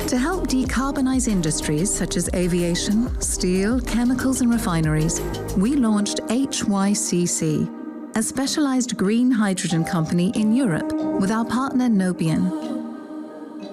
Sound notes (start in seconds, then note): none